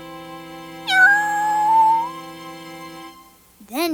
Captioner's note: cat meows